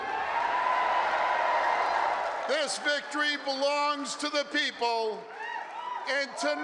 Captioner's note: cheering